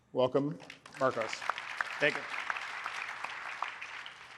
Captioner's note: applause